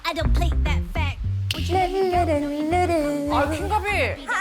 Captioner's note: humming sound